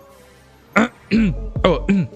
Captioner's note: clears throat